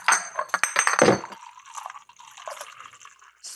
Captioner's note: bottle clanks; liqueur pouring